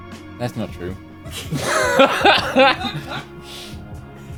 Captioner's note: laughter